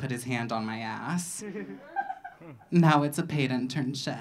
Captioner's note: audience laughing